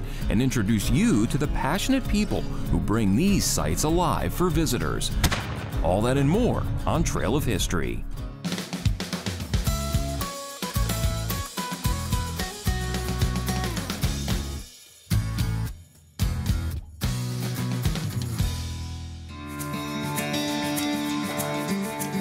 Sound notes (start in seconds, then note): 5.2 gun shooting; 8.5 bright upbeat music; 19.3 upbeat music